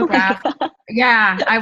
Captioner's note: laughs